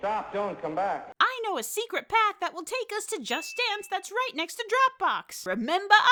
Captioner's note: product placement ding sound